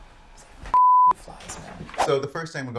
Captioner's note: beeping